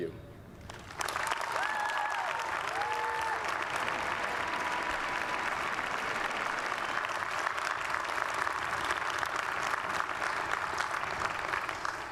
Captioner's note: applause